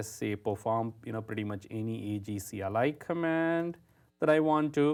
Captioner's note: none